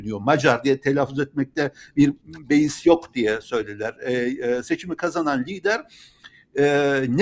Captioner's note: Hungarian